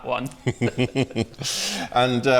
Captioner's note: laughs